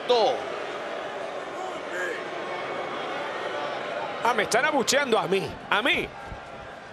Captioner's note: applause